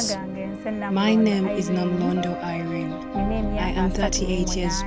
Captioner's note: speaking in Lagunda